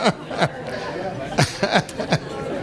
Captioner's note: laughter